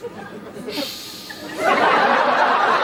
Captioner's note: Benedick hisses